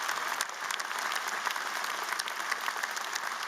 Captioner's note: applause